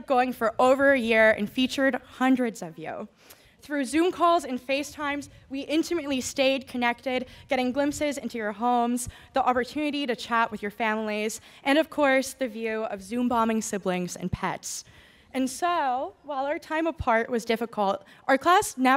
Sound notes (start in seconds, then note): none